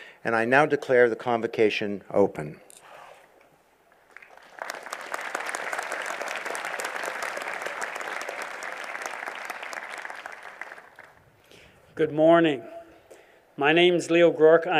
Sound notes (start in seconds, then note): 4.0 applause